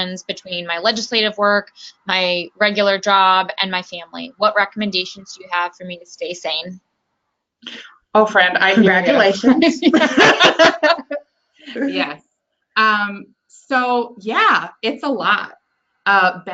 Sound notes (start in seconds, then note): 10.2 laughing